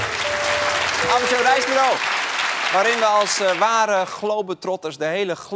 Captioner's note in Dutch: applaus